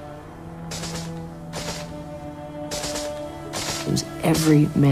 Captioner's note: gunfire